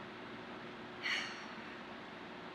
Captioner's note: exhales loudly